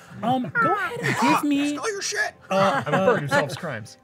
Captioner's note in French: croasse